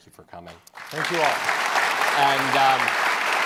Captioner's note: clapping